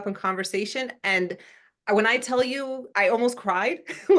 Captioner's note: laugh